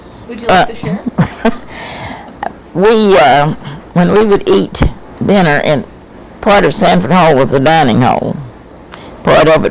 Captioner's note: laughs